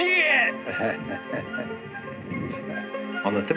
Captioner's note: chuckles